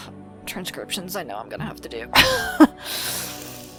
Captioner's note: laughs